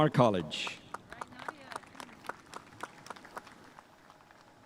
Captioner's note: spectators applauding